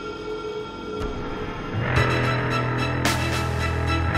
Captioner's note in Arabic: طلقات نارية